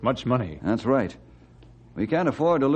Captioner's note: none